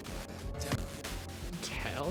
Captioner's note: audio static